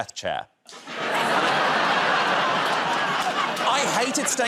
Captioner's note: laughter